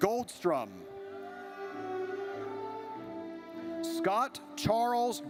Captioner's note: audience cheers